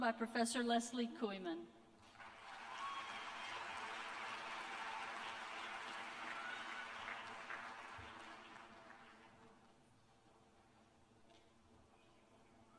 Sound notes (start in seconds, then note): 2.0 applause